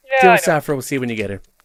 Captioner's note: over the phone